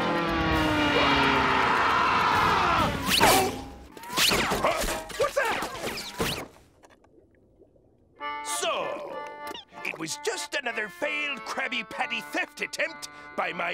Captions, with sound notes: [screaming] Huh! What’s that? So, it was just another failed Krabby Patty theft attempt by my